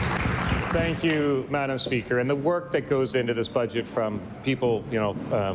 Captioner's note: applause